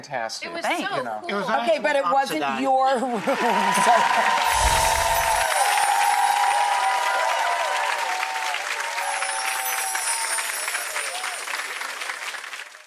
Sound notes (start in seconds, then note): 4.0 applause